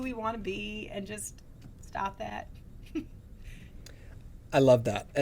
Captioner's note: chuckles